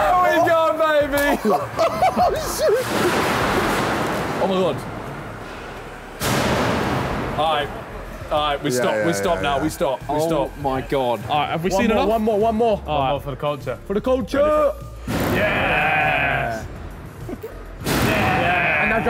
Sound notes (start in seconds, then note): 1.0 all laughing; 6.2 metal clanking